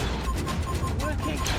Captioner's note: blaster fires; console beeps